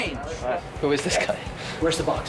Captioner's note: chuckling